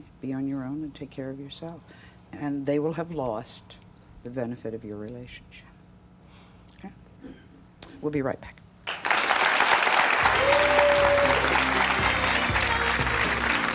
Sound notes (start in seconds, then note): 8.8 audience applauds; 10.2 lighthearted music